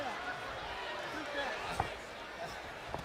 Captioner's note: crowd chatter